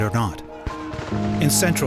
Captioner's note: there are sounds of gunshots